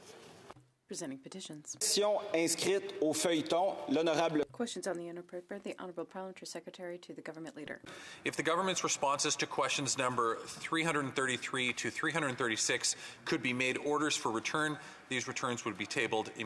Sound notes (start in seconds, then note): 4.7 speaking French